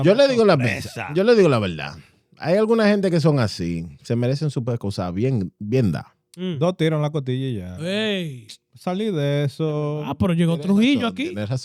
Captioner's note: speaking In Foreign Language